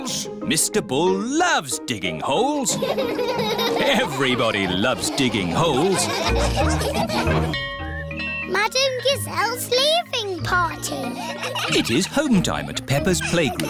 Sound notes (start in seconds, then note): 2.7 all laughing